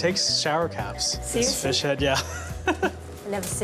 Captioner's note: laughing